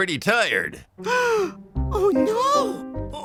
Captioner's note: gasps